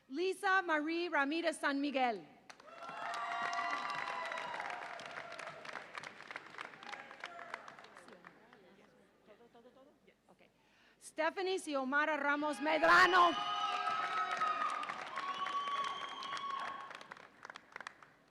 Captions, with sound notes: Lyssa Marie Ramirez-San Miguel. (audience applauds and cheers) Stephanie Xiomara Ramos-Medrano. (audience applauds and cheers)